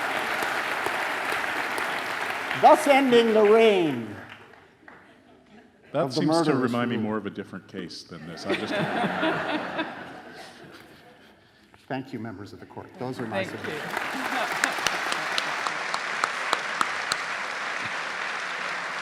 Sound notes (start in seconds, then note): 8.3 audience laughing; 8.4 becomes drowned out by laughing; 13.2 audience applauding; 13.8 laughs